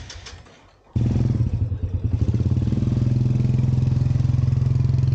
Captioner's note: engine roaring